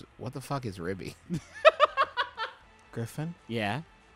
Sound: laughing

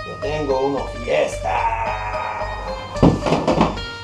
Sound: upbeat music; person speaking in foreign language

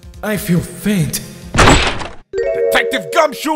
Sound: door crashes open

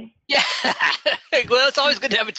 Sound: laughing

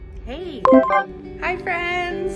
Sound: computer chimes

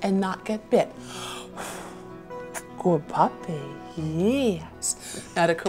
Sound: blows

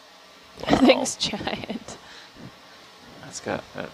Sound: scientist laughing

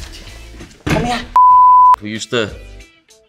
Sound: beeping sound

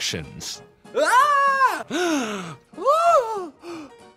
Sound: gasps

